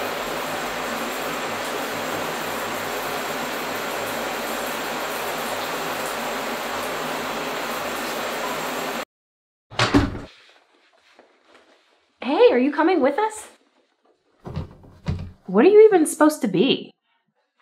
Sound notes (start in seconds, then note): 9.7 door closes